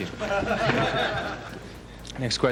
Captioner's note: audience laughs